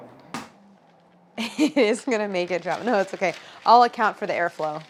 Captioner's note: laughing